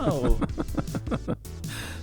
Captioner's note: laughs